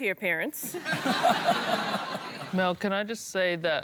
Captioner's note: laughter